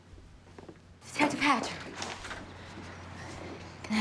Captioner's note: door opens